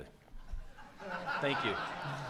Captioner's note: audience laughs